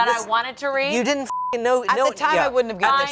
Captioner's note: beep